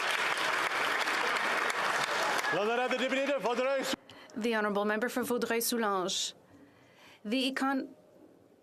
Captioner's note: applause